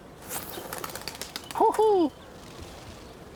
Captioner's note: wings fluttering